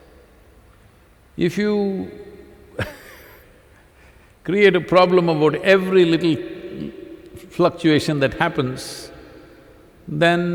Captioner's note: laughs